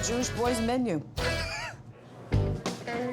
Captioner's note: John laughs; upbeat music